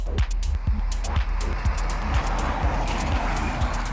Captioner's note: bus speeds past